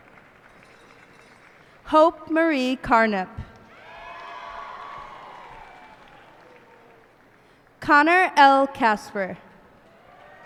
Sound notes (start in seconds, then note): 0.0 cheers and applause; 3.6 cheers and applause